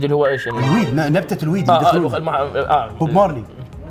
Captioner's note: muttering